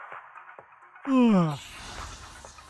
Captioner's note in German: gähnt